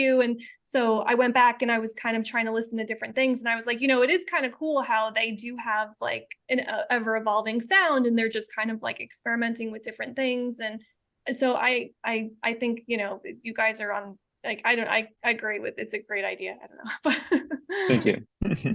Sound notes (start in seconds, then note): 17.5 laughing